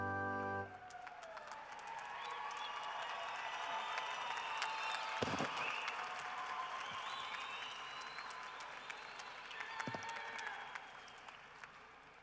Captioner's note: cheering and applause